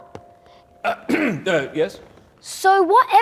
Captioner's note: clears throat